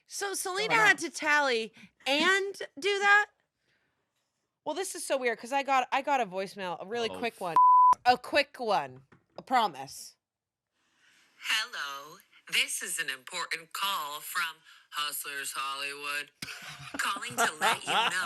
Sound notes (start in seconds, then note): 7.5 beep